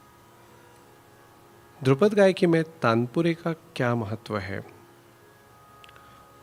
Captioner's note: drone